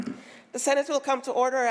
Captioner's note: gavel bangs